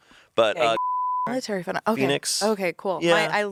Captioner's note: beep